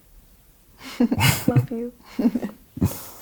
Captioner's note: both laughing